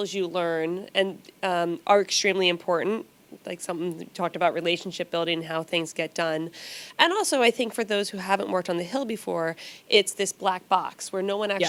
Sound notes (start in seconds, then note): none